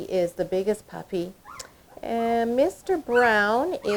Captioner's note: puppies barking and whimpering